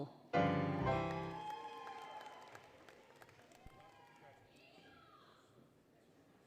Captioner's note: applause, Cheering; applause, Cheering, Music